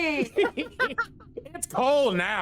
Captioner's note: laughing continues